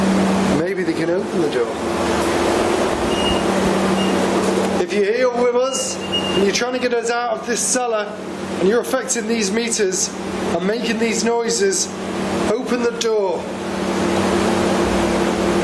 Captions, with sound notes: Maybe they can open the door. (device beeping) If you're here with us and you're trying to get us out of this cellar and you're affecting these metres and making these noises? Open the door.